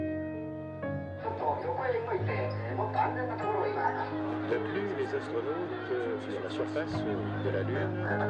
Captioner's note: news reports playing in multiple languages